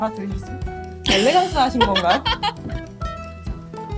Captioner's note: laugh